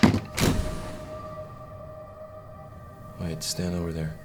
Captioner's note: loud whooshing